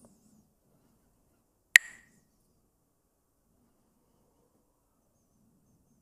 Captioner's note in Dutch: klakt met stokjes